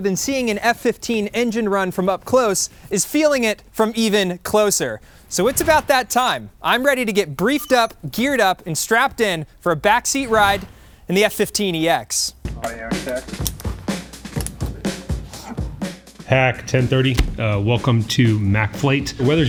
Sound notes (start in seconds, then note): 12.9 equipment clattering; 13.4 energetic music